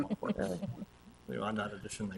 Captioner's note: people chuckle